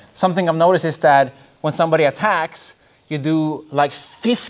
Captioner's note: none